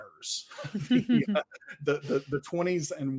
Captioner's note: both laugh